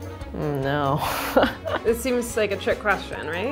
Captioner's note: energetic music; laughs